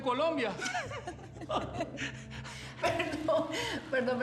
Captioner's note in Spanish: risas